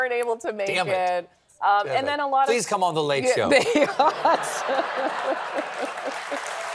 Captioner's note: applause; laughter